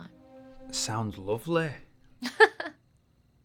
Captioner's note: in British accent; Charlotte laughs